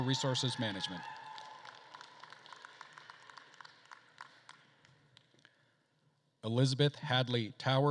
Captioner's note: attendees cheering and applauding